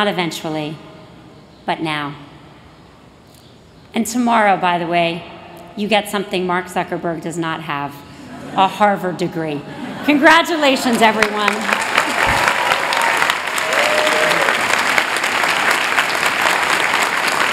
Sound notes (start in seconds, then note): 10.9 applause